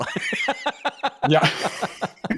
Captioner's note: laughter